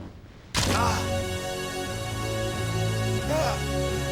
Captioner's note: suspenseful music; Rick grunting